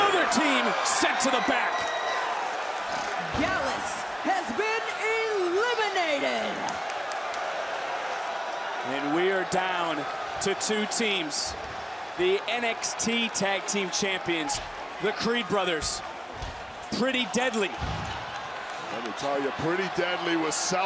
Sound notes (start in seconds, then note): 7.7 crowd cheers